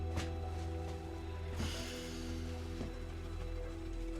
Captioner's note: sighing